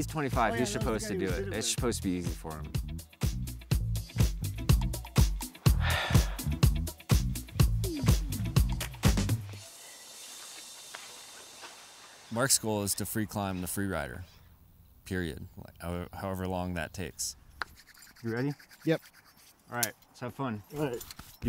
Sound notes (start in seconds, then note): 3.1 upbeat music; 5.6 exhales